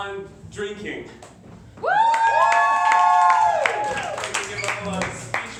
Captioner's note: applause